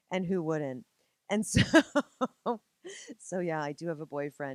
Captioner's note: laughing